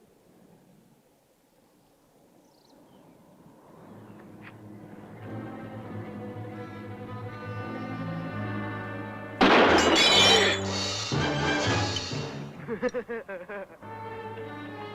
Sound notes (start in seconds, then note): 4.7 worrying music; 9.4 gunshot